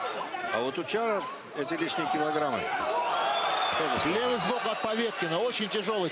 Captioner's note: cheer